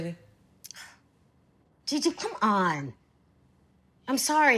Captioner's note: sighs